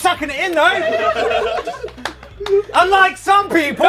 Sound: people laughing

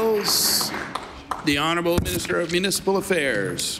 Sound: applause

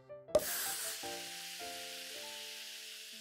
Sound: psshhhhhh

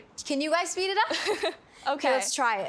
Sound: laughs

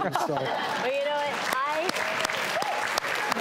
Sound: laughter; applause and cheering

